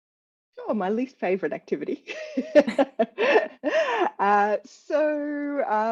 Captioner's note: laughs